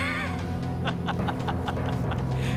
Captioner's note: laughing